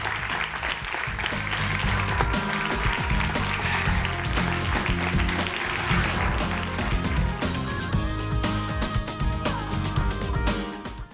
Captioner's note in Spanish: aplausos